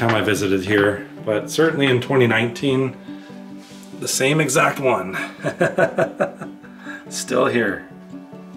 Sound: laughter

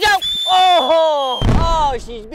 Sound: whistling sound

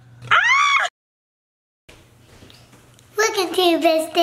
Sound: laughing; scream

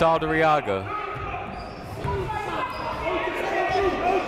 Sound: shouting

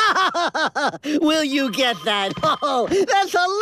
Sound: gasp

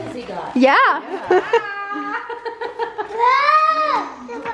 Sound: laughs

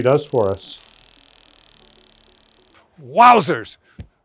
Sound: machine buzzing

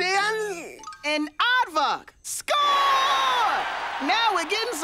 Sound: crowd cheering

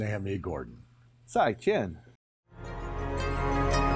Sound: speaking in a foreign language; uplifting music

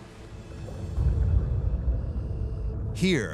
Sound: deep rumble

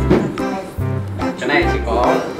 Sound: chatting

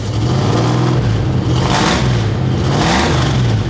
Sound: engine revving

